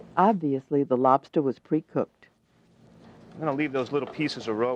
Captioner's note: voiceover